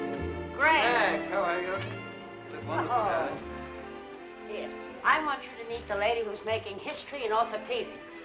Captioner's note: none